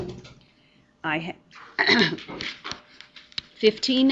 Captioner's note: clears throat